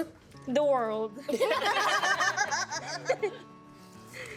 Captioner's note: all laughing